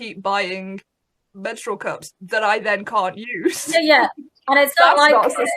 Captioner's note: laughs